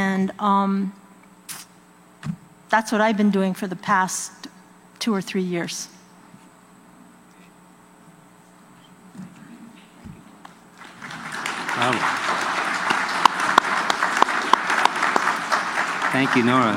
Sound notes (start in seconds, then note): 7.7 applause